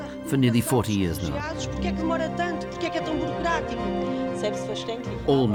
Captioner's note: speaking various languages